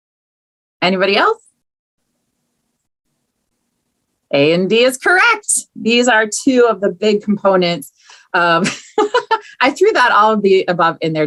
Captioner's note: laughs